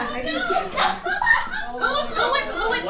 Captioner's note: audience laughs